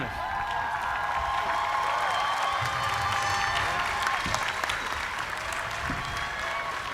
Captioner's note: cheers and applause